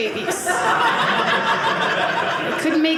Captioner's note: audience laughing